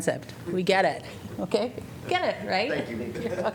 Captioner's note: laughter